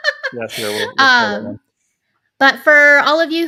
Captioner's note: laughing; speaking faintly